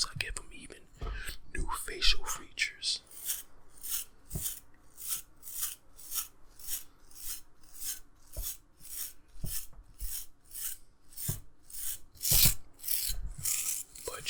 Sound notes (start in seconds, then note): 3.7 brush bristles rustling